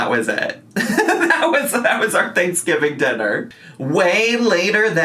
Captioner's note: laughs